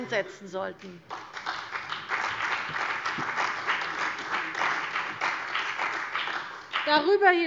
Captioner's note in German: Beifall bei der CDU und dem BÜNDNIS 90/DIE GRÜNEN